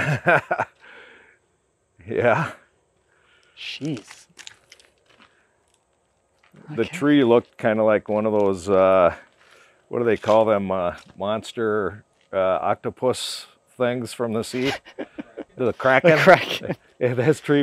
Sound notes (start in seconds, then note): 0.0 laughing; 14.4 laughing